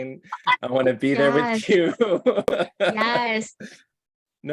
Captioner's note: laughing